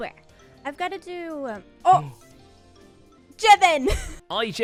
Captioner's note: gasps